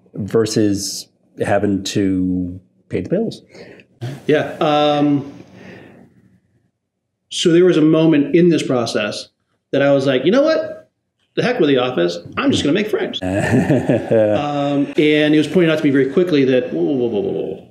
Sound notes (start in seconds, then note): 13.2 laughs